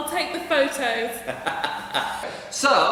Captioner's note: laugh